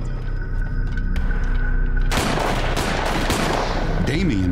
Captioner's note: gunshots